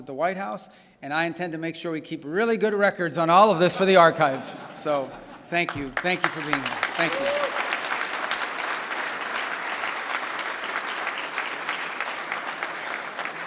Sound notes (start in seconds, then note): 3.6 laughter; 7.3 applause